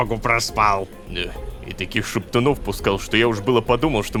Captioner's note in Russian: шепотом